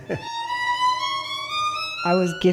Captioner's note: laughs